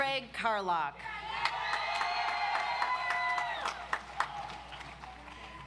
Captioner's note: audience applauds